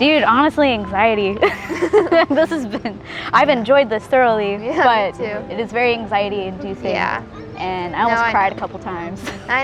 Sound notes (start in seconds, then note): 1.4 both chuckle